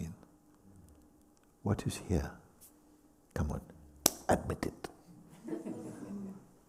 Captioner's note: claps; laughter